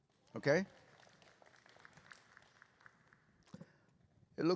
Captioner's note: applause